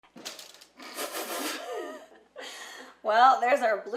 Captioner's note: laughing